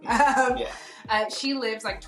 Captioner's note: laughs